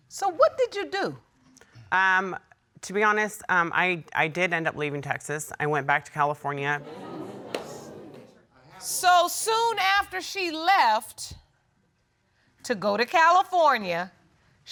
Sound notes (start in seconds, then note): 6.8 audience murmuring